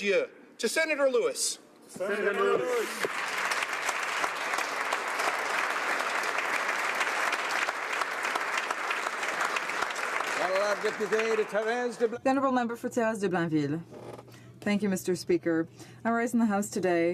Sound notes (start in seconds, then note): 8.5 applause